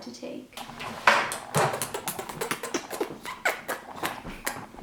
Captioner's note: kissing noises